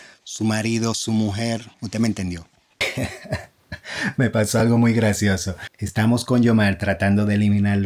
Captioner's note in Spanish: risas